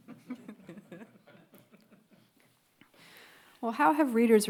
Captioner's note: panelists laugh